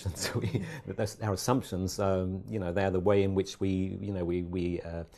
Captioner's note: laugh